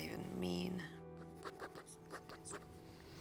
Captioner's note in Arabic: خدش